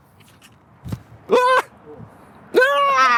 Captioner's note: yells